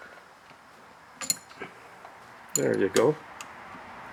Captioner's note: metal clinking